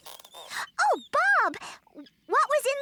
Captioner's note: excitedly